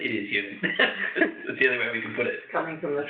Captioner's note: laughs